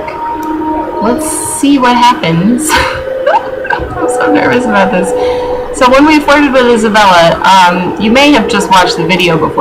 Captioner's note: laughs